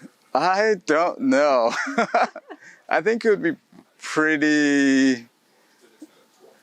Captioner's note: laughs